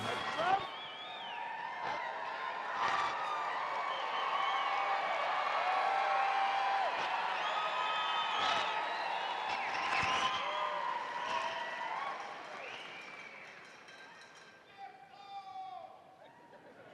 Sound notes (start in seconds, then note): 0.0 uplifting instrumental music continues; 0.5 audience cheering; 16.3 audience laughing